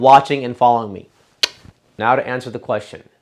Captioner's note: smacks lips